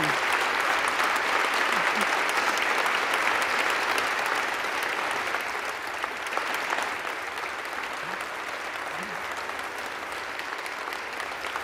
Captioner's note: applause